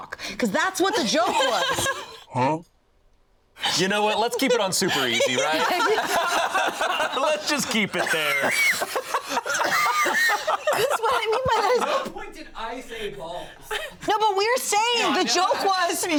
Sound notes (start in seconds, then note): 5.7 all laughing; 9.7 coughing